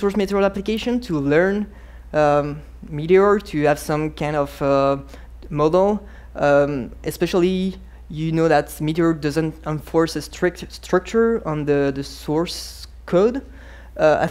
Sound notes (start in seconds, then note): none